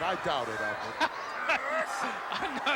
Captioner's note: laughs